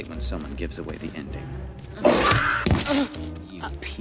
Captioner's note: moaning; roaring